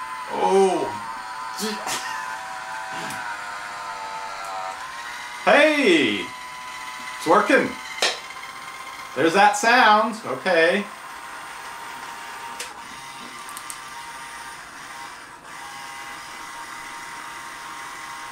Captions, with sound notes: Oh. Hey it's working. (lid pops) There's that sound, okay. (motor)